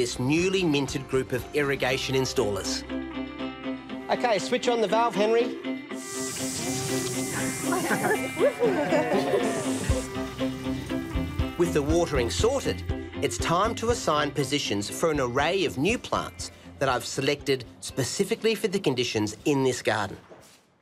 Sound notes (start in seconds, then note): 5.9 water hisses; 7.3 residents laugh and cheer